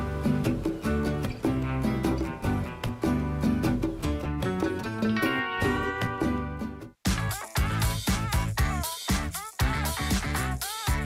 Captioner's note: applause